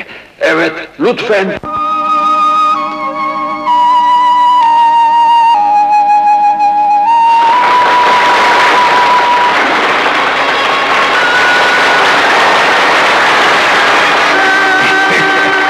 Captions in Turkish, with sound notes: Evet, lütfen! [Fonda duygusal film müziği] [Alkışlar]